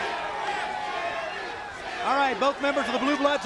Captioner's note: crowd chatter